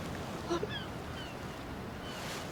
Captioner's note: Aradia crying